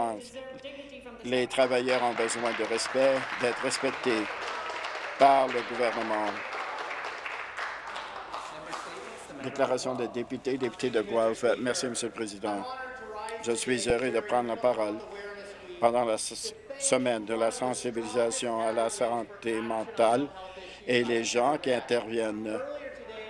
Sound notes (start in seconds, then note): 10.1 some applause